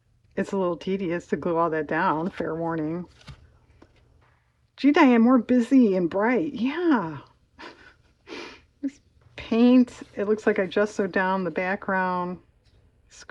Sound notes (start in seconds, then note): 7.6 laughs